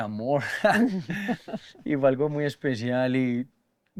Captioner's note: laughter